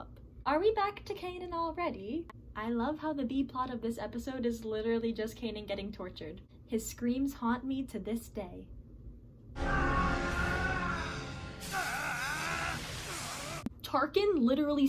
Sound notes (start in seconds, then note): 9.6 Kanan screaming; 10.8 electrocution noises